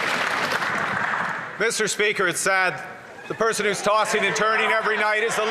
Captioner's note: some Applause